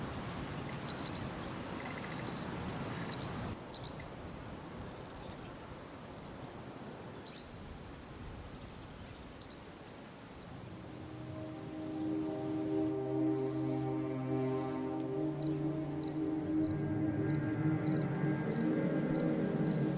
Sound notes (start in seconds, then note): 10.8 soft dramatic music; 12.0 insects chittering